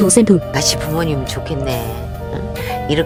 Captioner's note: Tiếng ồn phát sóng trực tiếp